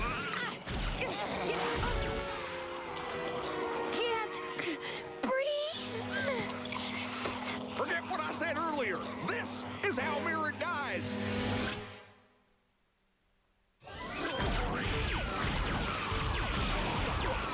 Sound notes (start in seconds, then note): 5.8 gasping